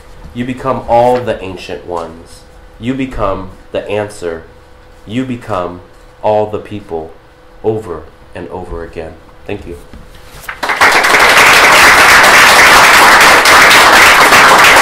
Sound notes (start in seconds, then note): 10.4 applause